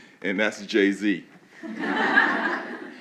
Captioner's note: laughing